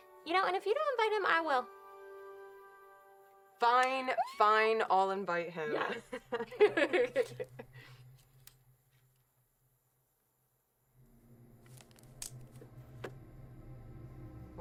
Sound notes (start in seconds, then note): 5.8 Mackenzie and Jordyn laughing; 11.6 twigs snapping; 13.3 tense music